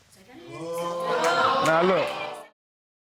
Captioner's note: courtroom exclaiming